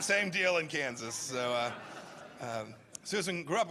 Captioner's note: laughter